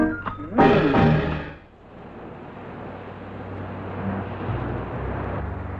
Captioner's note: water whooshing